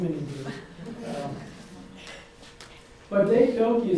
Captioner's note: audience laughs